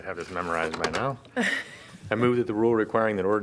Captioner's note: laughter